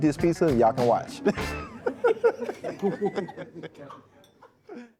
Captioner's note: all laughing